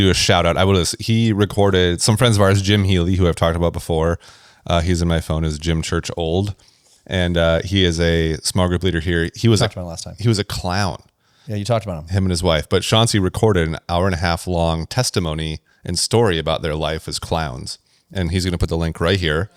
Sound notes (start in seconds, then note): none